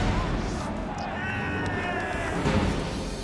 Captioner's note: screams